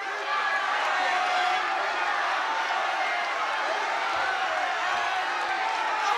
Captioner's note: shouting